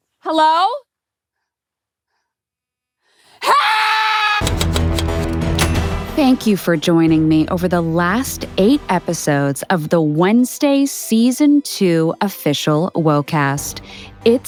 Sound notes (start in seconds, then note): 3.4 screams; 4.4 typewriter clicks; 4.4 dramatic music